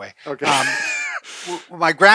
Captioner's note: laughing